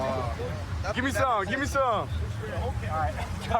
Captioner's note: none